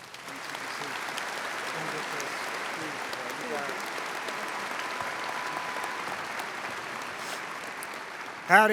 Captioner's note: applause